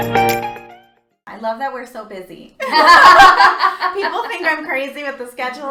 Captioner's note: laughter